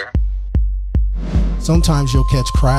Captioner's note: dramatic music begins; air whooshing